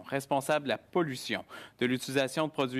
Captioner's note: speaking French